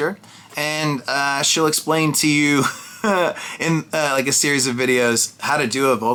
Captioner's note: laughs